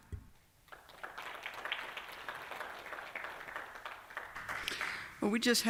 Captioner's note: applause